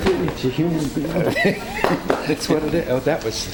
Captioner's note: speaks away from mic; Christopher chuckles